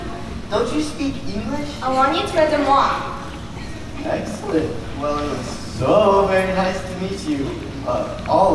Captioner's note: foreign Language